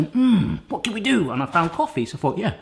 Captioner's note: grunting voice